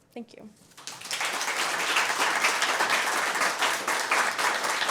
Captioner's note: applause